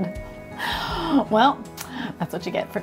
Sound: gasps

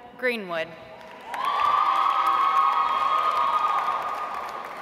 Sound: audience applauds

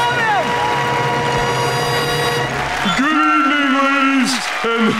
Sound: cheering

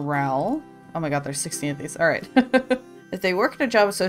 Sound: laughs

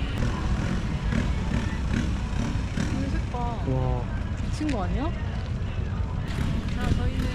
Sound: exclamation

